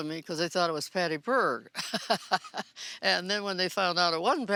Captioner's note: chuckling